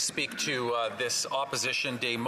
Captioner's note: speaking French